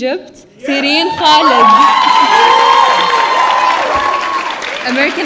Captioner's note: audience cheering